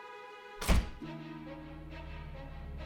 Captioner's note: door thudding; ominous tempo music